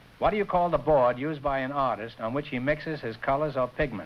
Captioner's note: none